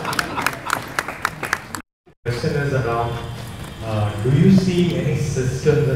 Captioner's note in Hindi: तालियां